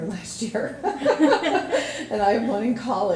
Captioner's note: laughing